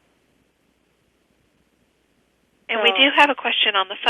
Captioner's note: pause